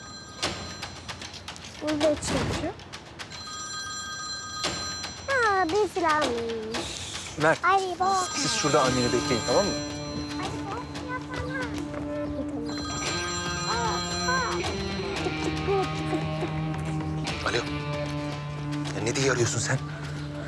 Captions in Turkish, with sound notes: (Telefon çalıyor) Burada kimse yok. Aa, birisi varmış. Mert, siz şurada anneni bekleyin tamam mı? (Gerilim müziği) (Telefon çalıyor) Alo. Ne diye arıyorsun sen?